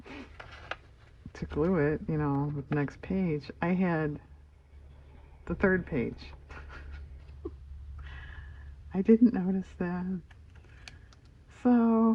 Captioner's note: laughs